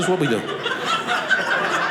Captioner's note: audience laughing